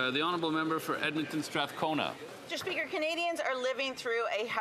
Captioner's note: speaking French